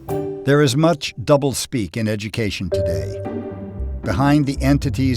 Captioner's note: voiceover